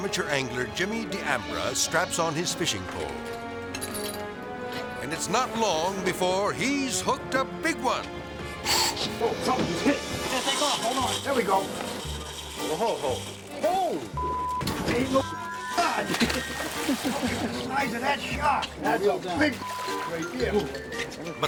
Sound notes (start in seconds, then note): 3.0 harmonic music; 8.6 reel cranking; 10.2 reel spinning; 14.1 beep; 16.4 water splashing; 19.6 beep